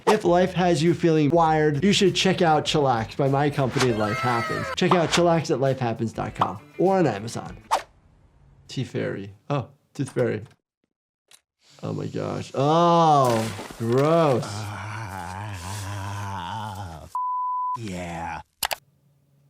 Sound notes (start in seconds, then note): 14.0 Tooth Fairy groaning; 17.2 beep